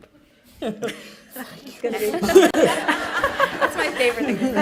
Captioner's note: laughter